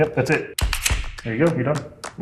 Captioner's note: gun clicks